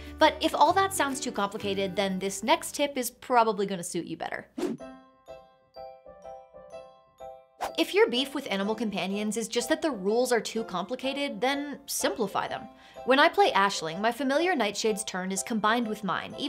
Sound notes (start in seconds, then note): 4.6 air whooshes; 4.7 calm upbeat music